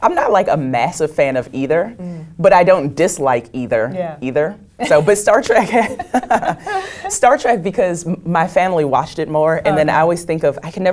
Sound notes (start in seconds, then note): 5.6 laugh